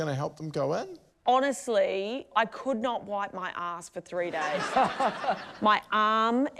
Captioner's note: laughter